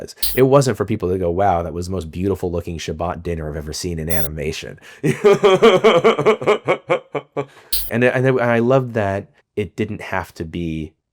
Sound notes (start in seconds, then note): 5.0 laughs